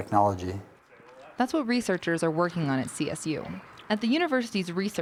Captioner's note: voiceover